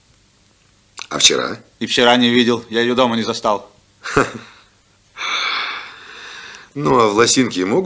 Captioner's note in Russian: тяжело вздыхает